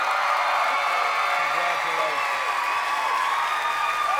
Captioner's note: cheers and applause